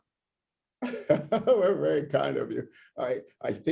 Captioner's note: laughter